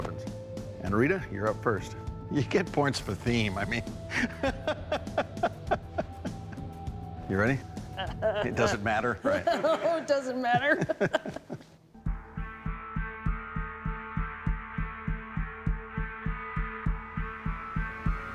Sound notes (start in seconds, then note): 4.1 laughter